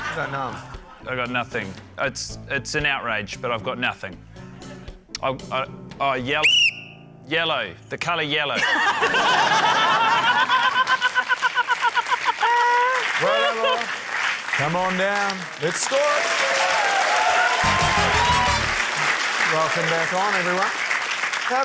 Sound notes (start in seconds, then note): 6.4 blows whistle; 9.8 laughter, applause; 17.3 cheering, applause